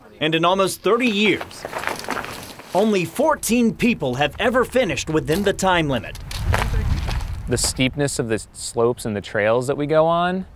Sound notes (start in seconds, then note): 1.5 crunching footsteps; 6.2 footsteps